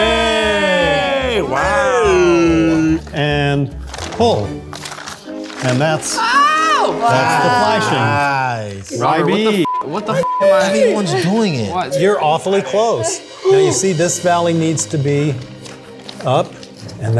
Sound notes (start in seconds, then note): 1.6 group cheering